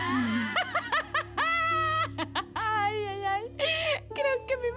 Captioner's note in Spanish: Risas